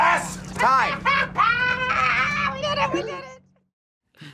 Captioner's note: laughs